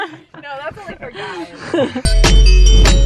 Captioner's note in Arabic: يضحك; موسيقى نطاطة متفائلة